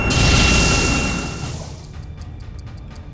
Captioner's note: torpedo releases